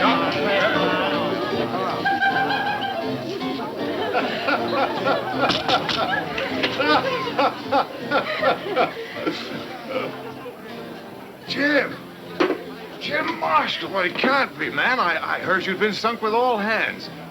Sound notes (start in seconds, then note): 2.1 woman laughing; 3.9 man laughing